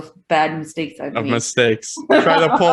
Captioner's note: laughing